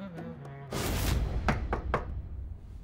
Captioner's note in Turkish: kapı çalıyor